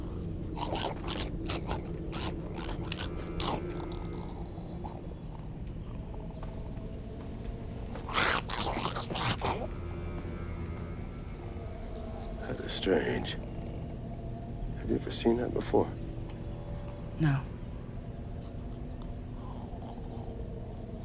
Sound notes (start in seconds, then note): 0.7 grumbling; 4.0 growling; 7.5 grumbling